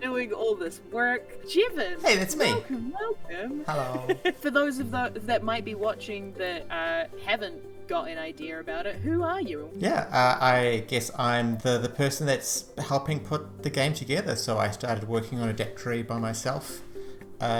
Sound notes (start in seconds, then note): 3.3 laughs